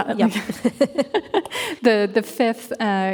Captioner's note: laughing